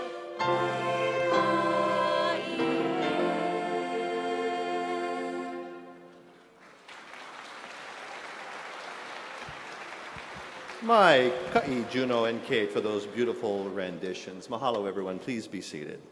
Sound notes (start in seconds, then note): 9.4 speaking hawaiian